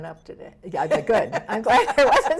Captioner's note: laughs